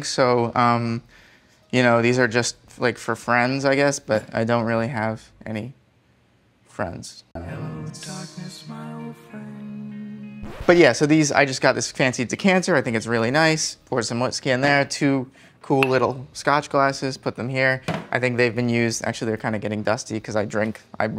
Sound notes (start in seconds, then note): 10.4 record rips